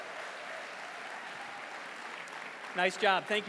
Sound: applause

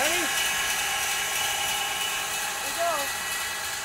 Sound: saw whirring

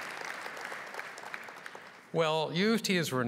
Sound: applause

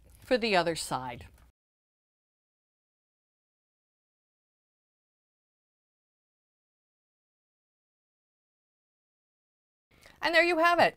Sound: no Sound Present

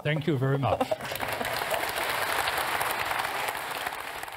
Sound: audience applauding

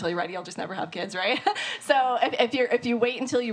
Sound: laughs

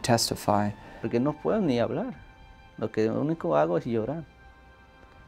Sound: speaking Spanish

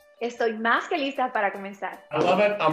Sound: speaks in spanish

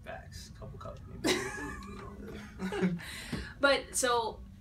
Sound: both laughing

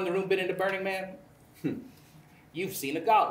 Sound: scoffs

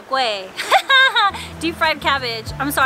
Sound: giggle

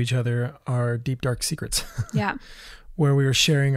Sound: laughs

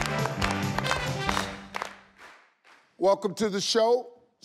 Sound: cheerful music; all clapping

